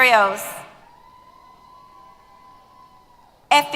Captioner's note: applause & Cheers